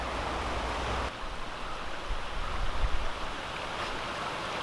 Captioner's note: water rushing